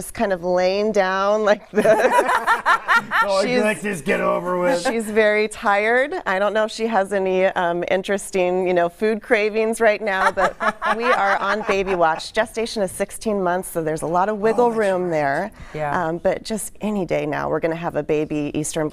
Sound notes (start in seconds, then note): 10.1 laughter